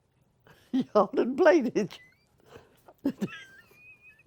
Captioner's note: laughter